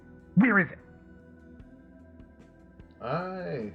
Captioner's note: pause